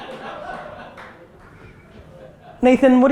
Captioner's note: group laughter